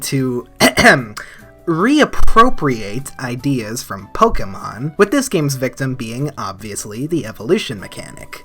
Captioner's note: cough cough